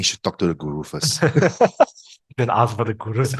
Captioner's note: laughters